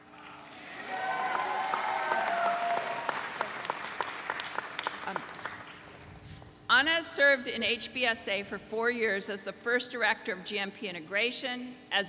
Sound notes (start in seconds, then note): 0.3 audience cheering